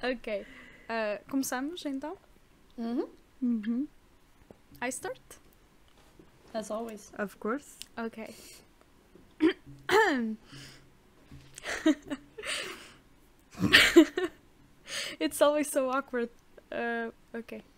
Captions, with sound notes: okay We are starting then? I start? As always... Of course. OkAy *clears throath agressively* it's always so awkward uh okay